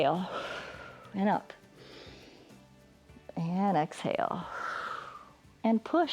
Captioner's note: exhales; inhales; exhales